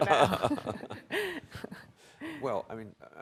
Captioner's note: everyone laughs